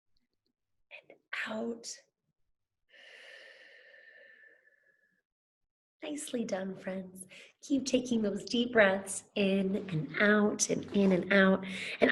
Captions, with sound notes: and out (exhales) Nicely done friends, keep taking those deep breaths in and out and in and out.